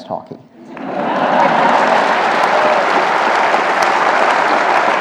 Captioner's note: audience applauding